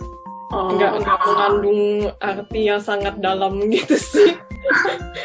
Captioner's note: laughs